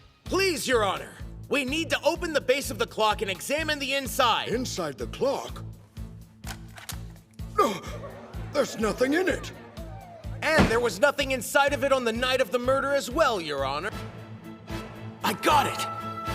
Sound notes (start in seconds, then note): 7.5 gasp